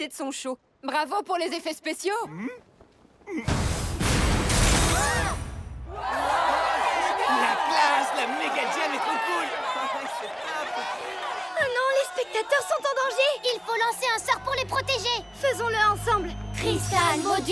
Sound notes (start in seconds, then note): 6.4 cheering; 10.2 cheering continues